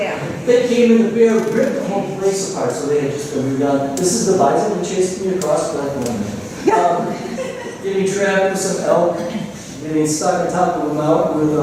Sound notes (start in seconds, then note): 6.9 laughter